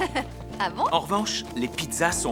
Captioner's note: chuckling